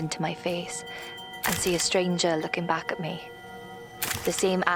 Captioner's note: camera shutter clicks